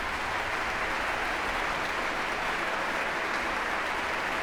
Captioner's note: applause